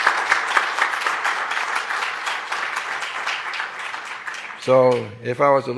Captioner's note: applause